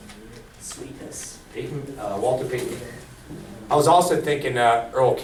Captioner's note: voiceover